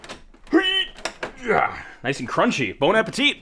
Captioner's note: grunts